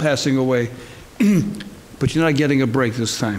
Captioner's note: clears throat